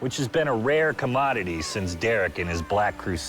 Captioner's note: none